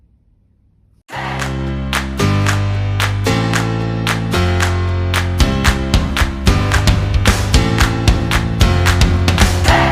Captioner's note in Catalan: Aplaudiment